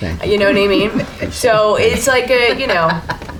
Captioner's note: laughter